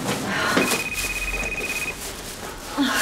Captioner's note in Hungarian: telefoncsörgés